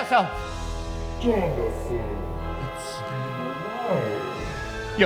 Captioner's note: malevolent voice